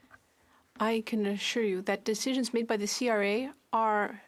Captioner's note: speaking French